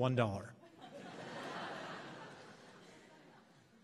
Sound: laughs

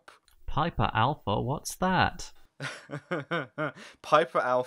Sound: laughter

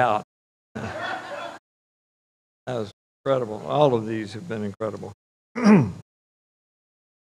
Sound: audience laughs

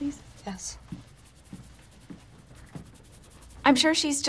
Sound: scratching

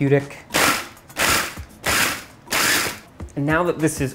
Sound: whirring

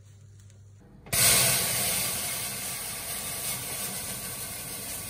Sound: sizzling

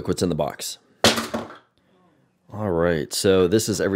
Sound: devices clank

